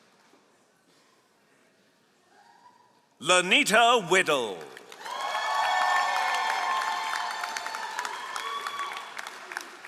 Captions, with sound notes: LaNita Whittle. (all applauding)